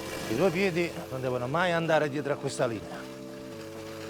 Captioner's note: speaking Italian